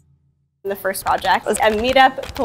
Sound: mouse clicking; keyboard clacking

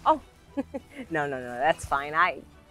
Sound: laughs

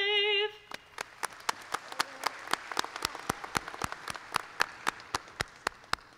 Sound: applause

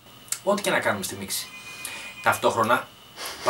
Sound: telephone ringing

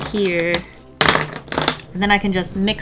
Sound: crash, smack

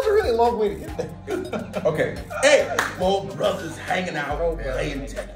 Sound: laugh

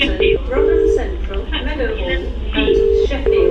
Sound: phone ringing

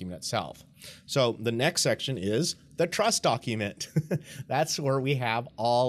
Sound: laughs

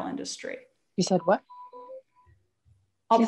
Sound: sound interruption

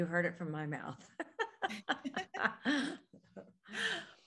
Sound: all laugh

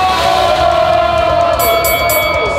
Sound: big splash; crowd yelling; fight bell dings

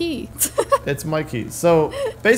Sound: laughs

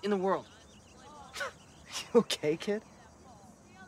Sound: laughs

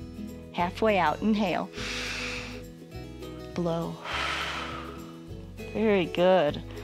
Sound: inhales; exhales

